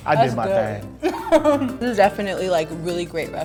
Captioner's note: laughs